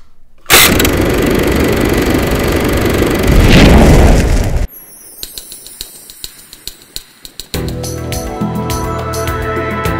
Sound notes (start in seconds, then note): 3.2 explosion; 4.9 upbeat music